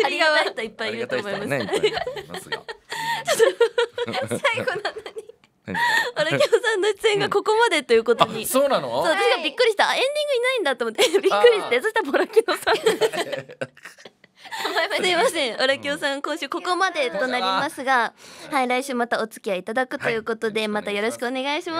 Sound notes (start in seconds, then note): 17.7 laughs